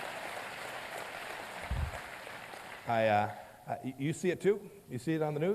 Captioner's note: applause